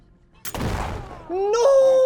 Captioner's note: gunshot sound